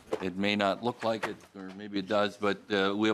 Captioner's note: gavel